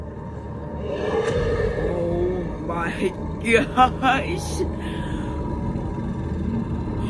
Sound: Godzillasaurus growling

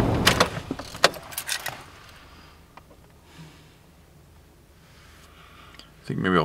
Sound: silence

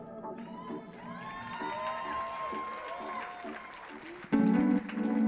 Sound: music fades; audience cheers and applauds

